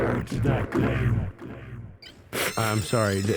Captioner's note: Bunny crying